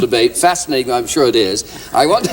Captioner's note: laughter